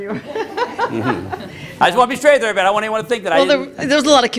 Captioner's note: laughter